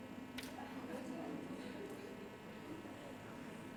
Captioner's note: people chattering